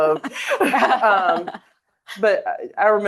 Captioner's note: both laughing